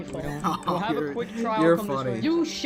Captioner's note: laughs